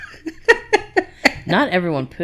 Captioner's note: laughs